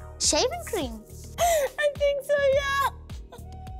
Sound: laughing

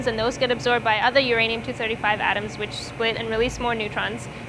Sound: none

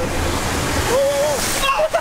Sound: cars passing

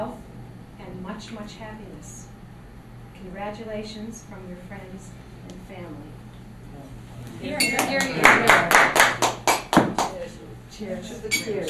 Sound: applause

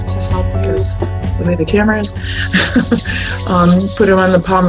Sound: laughing

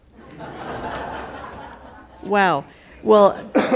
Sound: attendees laughing

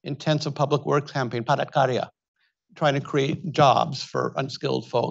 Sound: speaks Indonesian

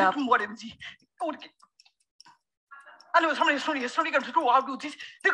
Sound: chanting gibberish

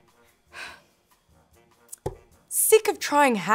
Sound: sighs

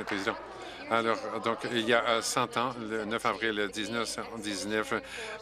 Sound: some Applause

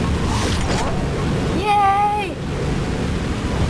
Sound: portal whirs open

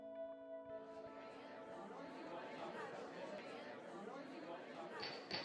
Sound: people chattering

